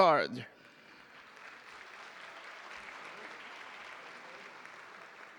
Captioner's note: audience applauding